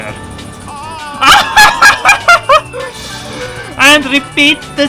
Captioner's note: laughter